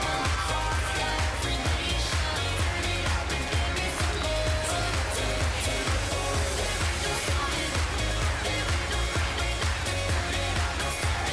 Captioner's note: cheers & applause